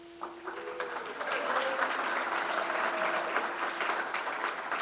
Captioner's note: crowd applauds